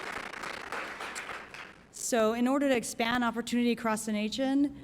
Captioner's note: applause